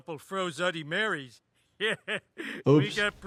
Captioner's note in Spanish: risas